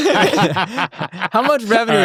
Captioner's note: hosts laughing